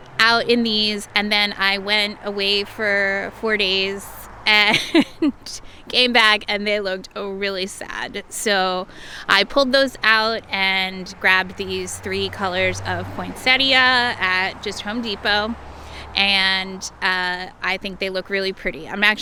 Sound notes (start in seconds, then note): 4.6 laughs